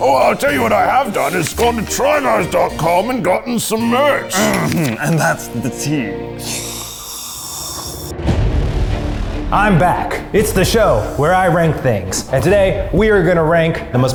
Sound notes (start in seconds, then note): 6.2 sipping loudly; 8.7 suspenseful music